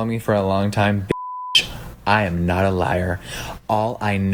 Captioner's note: beep